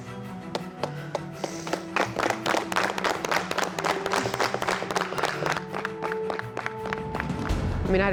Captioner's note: cowboys all clapping